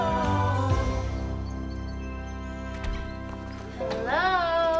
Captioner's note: birds chirping